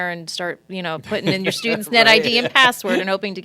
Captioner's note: laughing